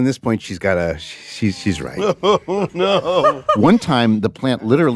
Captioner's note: laughs